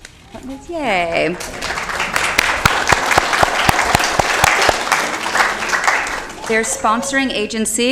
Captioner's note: applause